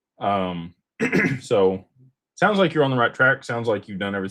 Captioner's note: clears throat